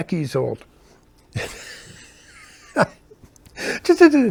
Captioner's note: laughing